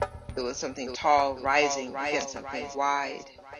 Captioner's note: echoes